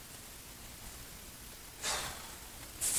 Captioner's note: sighs